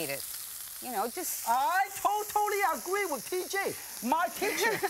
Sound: yelling

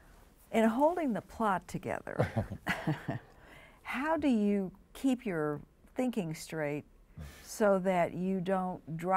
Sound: chuckles

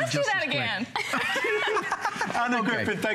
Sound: laughter

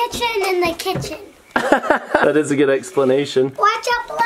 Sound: laughing

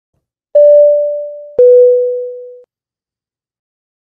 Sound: beep

